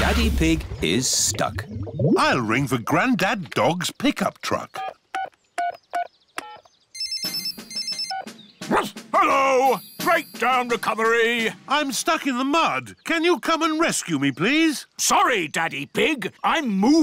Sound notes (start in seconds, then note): 6.9 phone rings; 8.6 barks